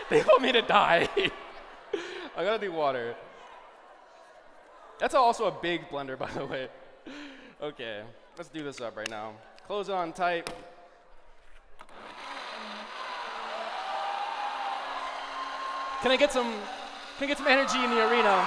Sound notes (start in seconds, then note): 11.9 blending; 12.6 cheering